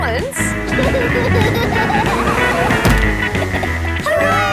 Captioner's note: laughing